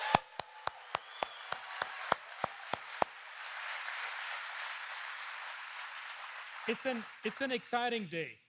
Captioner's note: applause